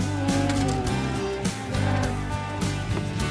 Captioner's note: mooing